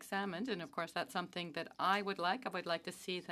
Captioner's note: speaking French